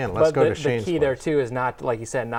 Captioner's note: laughing